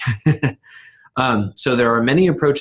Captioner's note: laughing